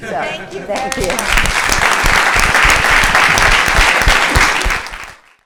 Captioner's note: applause